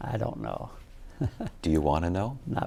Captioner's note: laughs